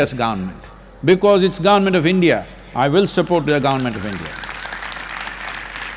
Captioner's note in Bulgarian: Аплодисменти